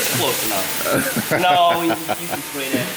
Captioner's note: laughs